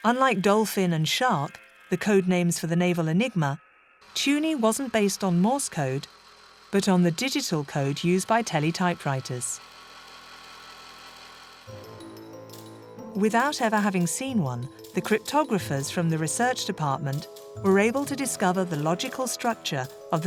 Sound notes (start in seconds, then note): 10.0 machine humming; 11.7 gentle music